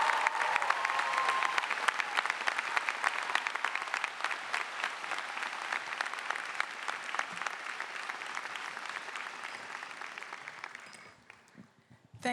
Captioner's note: cheers and applause